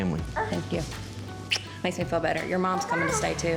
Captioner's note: smooch